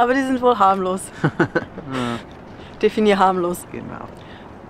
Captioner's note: laughs